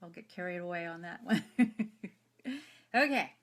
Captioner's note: laughs